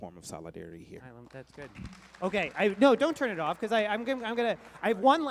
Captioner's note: applause